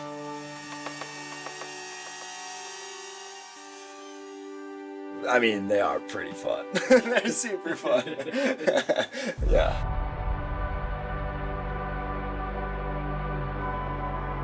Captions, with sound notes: I mean, they are pretty fun (laughs). They're super fun. Yeah. (gentle music)